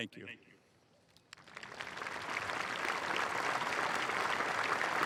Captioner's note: applause